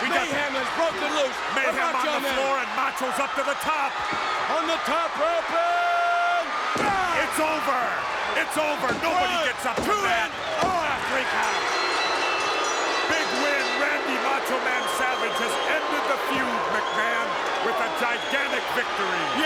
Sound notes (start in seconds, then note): 11.0 bell rings; 12.5 crowd boos